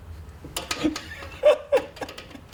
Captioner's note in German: lacht